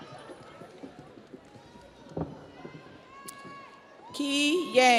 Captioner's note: audience cheers